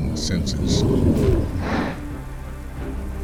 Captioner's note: snarling, snorting